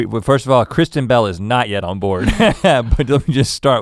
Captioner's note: chuckles